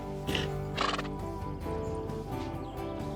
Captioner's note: horse grunting